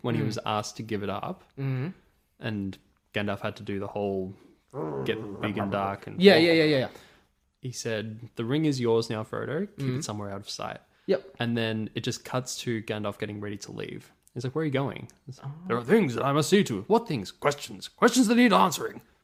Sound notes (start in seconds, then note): 4.7 growls